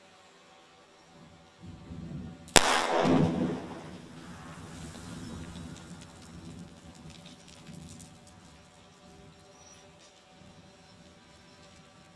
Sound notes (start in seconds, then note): 2.5 explosive booming; 2.6 rocks clattering